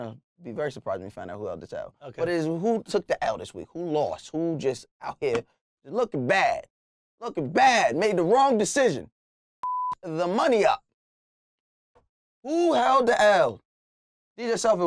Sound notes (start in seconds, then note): 9.6 beep